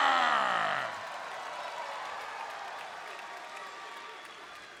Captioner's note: crowd cheering